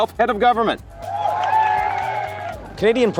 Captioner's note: crowd cheering